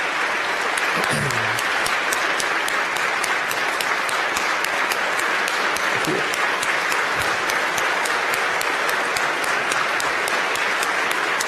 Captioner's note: applause